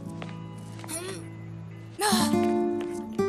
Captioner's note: hnng.....ugh